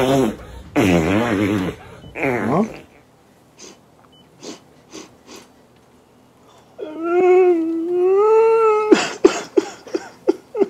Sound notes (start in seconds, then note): 0.0 farting; 0.0 relief noises; 4.8 sniffling; 6.8 crying